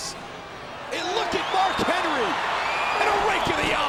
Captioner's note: fans cheering, whistling